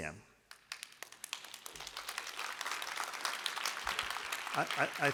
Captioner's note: applause